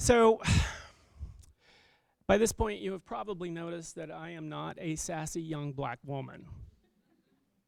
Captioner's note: laughter